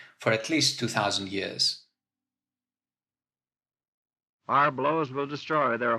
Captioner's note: soundbite of archived recording